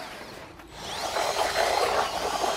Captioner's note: machine whirring